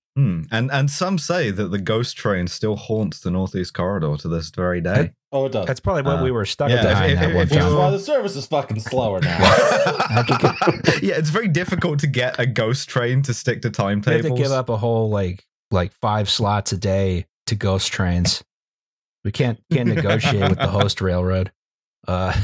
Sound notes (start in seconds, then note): 7.5 shouting; 8.7 laughter; 19.7 laughs